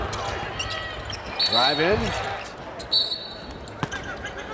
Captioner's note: whistle blows